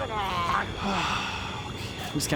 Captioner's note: inconvenient sigh